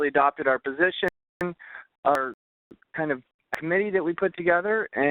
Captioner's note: voice distorting